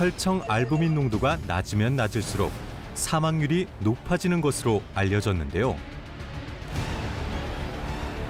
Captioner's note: voiceover